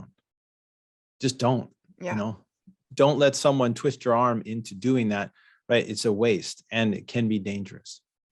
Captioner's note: none